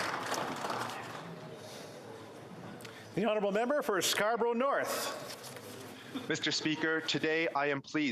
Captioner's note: applause